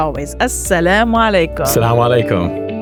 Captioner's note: speaking in a foreign language